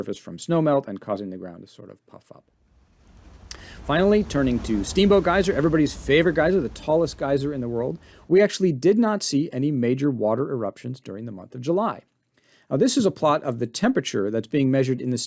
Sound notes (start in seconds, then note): 2.7 geyser spewing